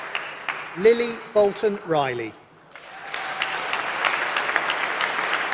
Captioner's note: applause